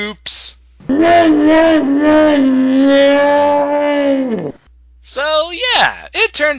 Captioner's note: wah Wah Wah Wah Sound